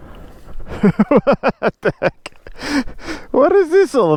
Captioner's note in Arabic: يضحك